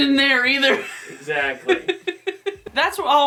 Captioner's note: laughs